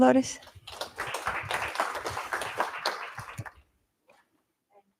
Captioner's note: applause